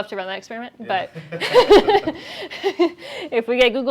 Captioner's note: laughter